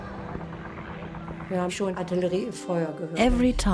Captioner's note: speaks in foreign language